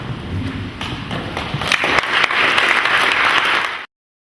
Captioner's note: clapping